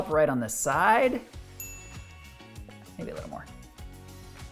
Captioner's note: bell dinging